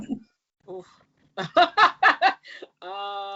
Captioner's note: laughs